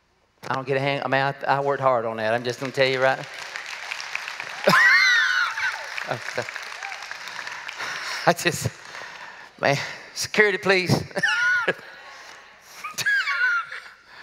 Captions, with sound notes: I don't get a hand? I worked hard on that. I'm just gonna tell you-- (applause) (laughs) I just--man. Security, please.